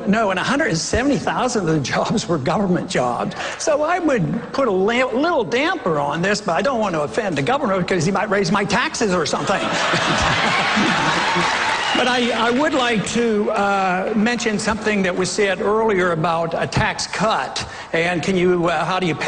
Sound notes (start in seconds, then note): 9.3 laughter, applause